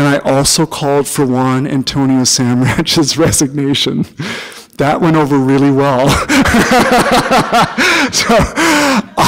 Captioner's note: chuckle